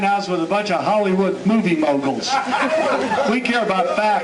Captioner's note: cheers and applause